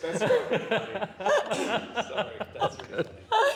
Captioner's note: laughter